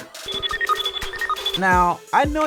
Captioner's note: computer beeps